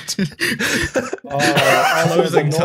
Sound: laughs; laughter

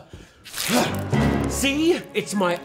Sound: bloody squelch

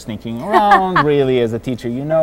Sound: laughing

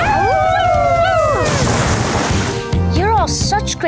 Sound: howling

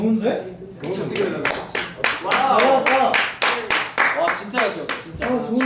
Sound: round of applause

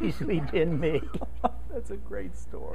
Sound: laughing

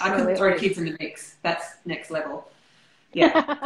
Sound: laughter

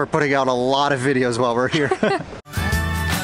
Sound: laughter

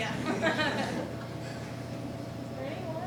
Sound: laughing

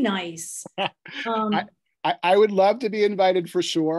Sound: laughs

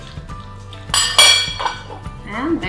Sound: fork clanking

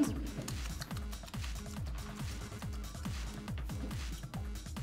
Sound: lips smacking

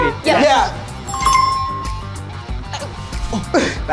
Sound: app chimes

